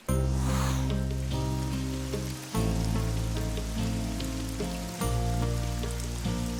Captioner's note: rain pattering; moving music